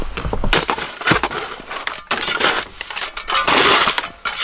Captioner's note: shovel scraping